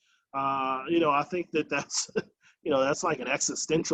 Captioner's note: chuckles